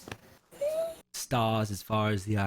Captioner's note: quiet squee